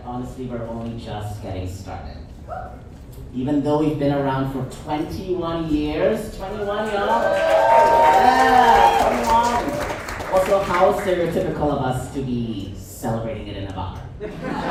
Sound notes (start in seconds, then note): 6.6 audience applauds; 14.2 audience chuckles